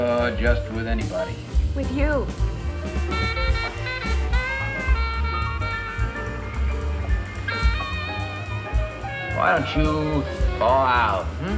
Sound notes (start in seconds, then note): none